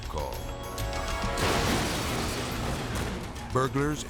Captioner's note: truck crashes